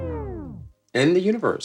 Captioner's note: record scratch